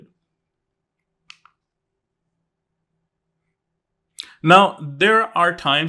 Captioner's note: remote clicking